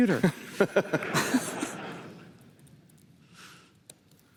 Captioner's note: laughter